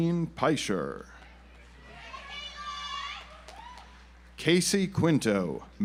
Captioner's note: audience applauds